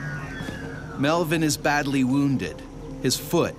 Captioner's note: voiceover